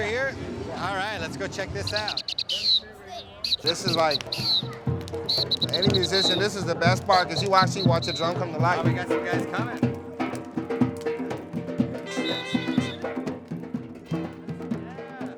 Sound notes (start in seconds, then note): 1.7 whistling